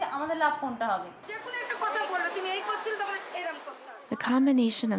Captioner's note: speaking Indian language